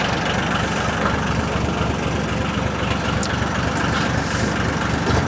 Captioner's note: truck Engine Revs